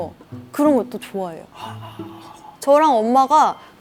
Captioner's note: ohhh